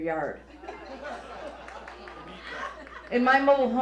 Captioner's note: audience laughs